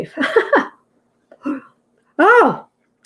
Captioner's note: laughing